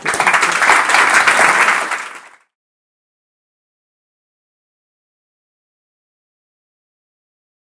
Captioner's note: applause